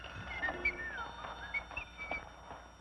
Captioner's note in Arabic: صفير